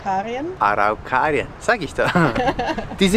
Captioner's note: laughs